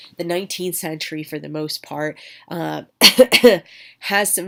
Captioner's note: coughs